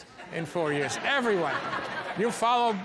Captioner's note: audience laughs